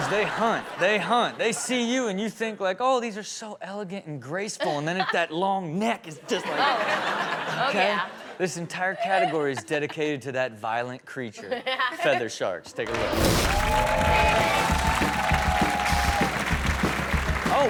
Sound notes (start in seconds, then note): 6.2 audience laughs; 12.8 audience cheers; 15.2 rock music